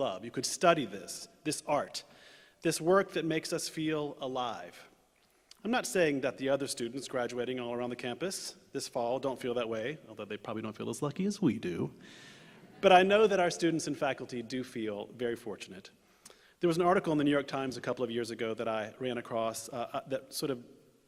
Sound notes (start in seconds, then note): 12.5 laughter